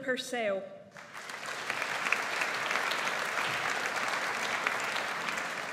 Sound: audience applauds

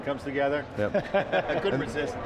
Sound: laughing

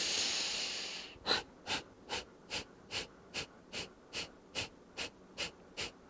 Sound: short repetitive exhaling

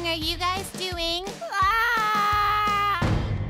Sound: cries out in despair

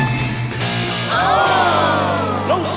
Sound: crowd groans

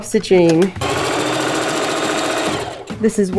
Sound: sewing machine running

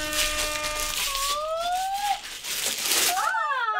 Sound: horns blazing; rustling continues; paper rustling

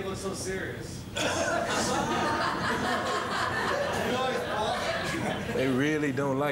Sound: audience laughs

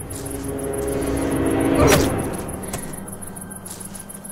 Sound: soft thud

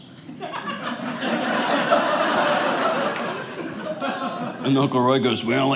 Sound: audience laughing

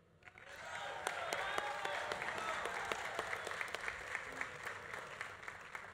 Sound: audience applauding; audience cheering

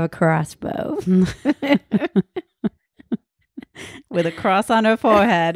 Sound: laughs loudly

